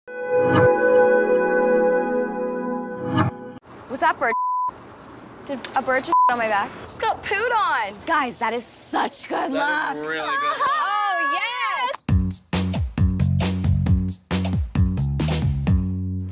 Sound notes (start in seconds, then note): 0.4 quick sound fades; 4.3 beep